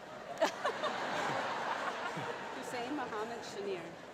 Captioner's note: laughing